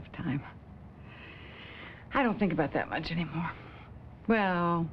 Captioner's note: inhales